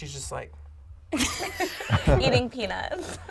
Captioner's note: laughing